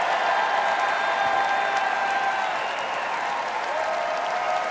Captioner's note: cheering and applause